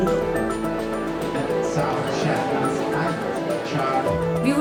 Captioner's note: crowd talking